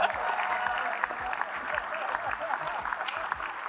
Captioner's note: applause